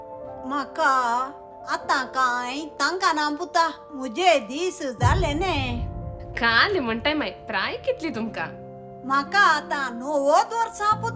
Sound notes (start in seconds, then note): none